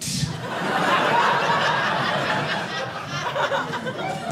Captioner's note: audience laughing